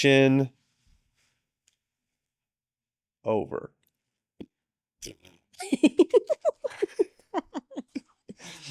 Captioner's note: laughing